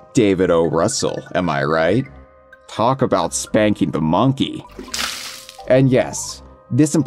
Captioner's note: cartoonish sexual splashing noises